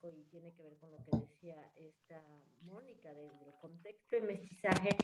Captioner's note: speaking spanish